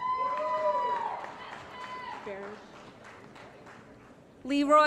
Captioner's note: applause & Cheering